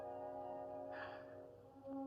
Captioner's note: sigh